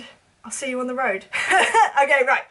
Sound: chuckles

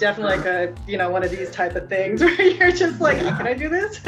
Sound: laughing

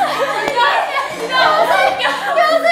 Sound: stomping her feet

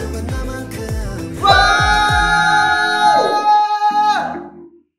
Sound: shouting

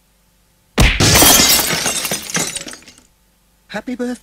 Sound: loud door slam, with glass breaking

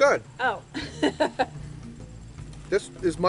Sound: laughs

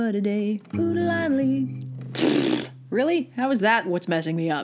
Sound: raspberry

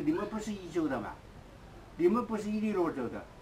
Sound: mandarin

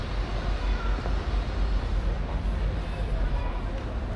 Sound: people chattering

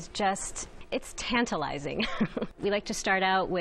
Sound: laughs

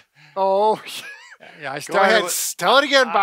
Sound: laughs loudly

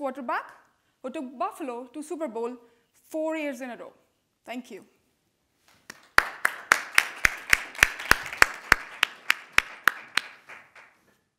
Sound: audience applauding

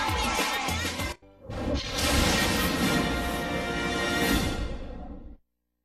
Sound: lightning and music resuming

